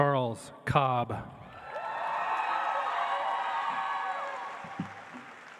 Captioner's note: audience applauds